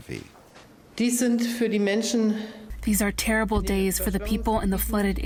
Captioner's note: through translator